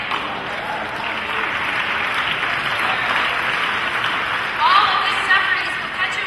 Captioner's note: applause and cheering